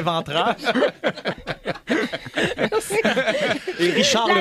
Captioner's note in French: rires